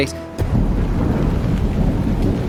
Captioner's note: thunder